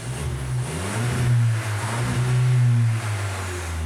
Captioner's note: engine revs